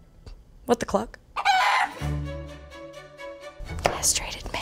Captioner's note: chicken clucking